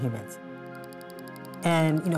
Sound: clock ticking rapidly

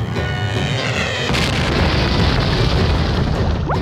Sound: explosion; bubbles

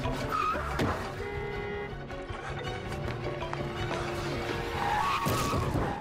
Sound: car horns

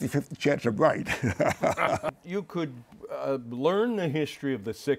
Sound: laughs

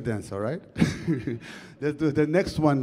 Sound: chuckles

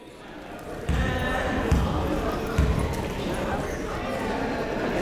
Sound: people talking in the crowd

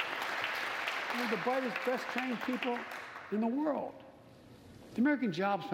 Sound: applause

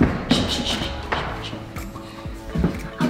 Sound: shushes

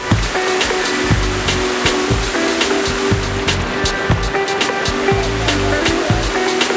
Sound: fountain water splashes

